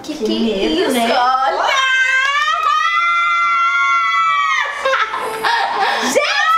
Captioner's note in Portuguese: gritos